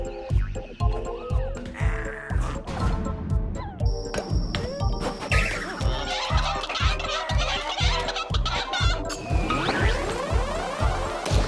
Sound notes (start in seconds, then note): 6.3 chicken balls cluck